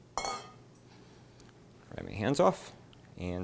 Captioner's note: pan clanks